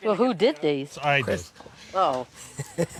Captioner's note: laughs